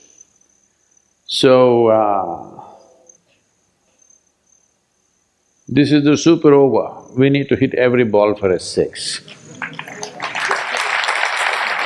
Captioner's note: applause